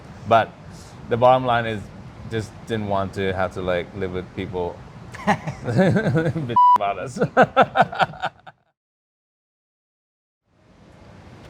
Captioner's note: laughing